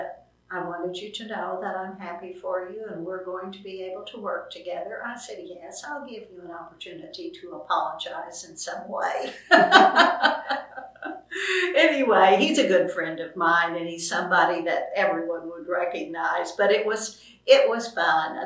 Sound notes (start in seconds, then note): 9.2 laughter